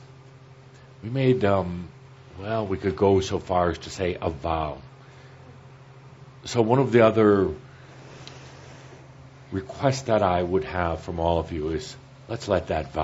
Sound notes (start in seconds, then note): none